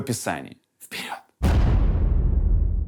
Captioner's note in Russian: шепотом